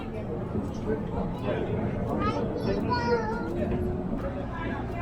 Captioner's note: passengers chattering